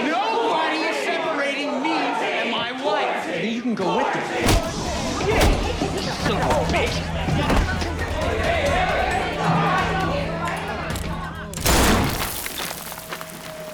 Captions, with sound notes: - Nobody is separating me and my wife! - Then you can go with them. - Shit! Son of a bitch! [clamoring] - Hey, hey, hey! [rushed chatter] [gunshot]